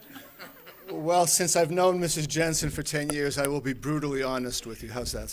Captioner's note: laughter